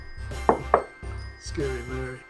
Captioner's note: mug thumps on desk